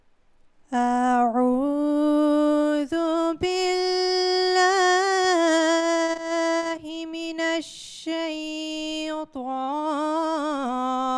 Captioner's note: Arabic recitation of the Holy Qur’an